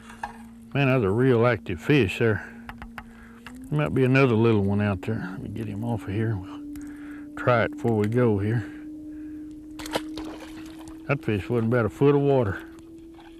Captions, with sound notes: man that was a real active fish there. there might be another little one out there..let me get him off of here. try it before we go [splash] that was in about a foot of water